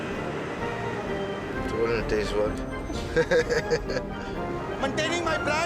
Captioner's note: laughs